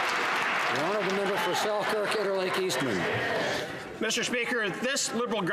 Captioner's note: some Applause